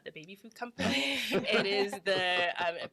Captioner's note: all laugh